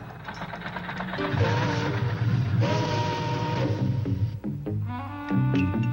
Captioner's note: train whistling softly